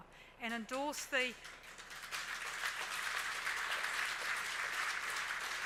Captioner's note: audience applauds